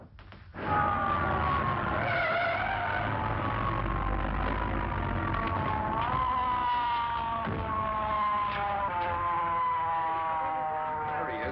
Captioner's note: siren of arriving police car